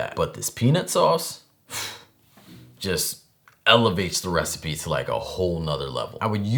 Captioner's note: whew